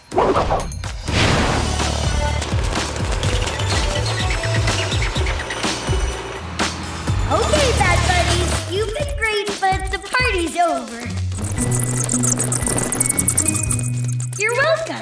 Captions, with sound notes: [scratching, squeaking] Okay, bat buddies, you've been great, but the party's over. [squeaking] You're welcome.